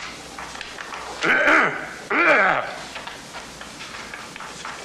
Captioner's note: clearing throat